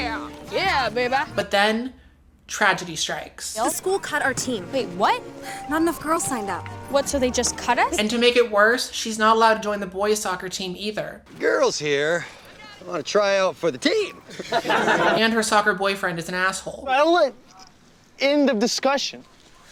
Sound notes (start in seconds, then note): 13.9 laugh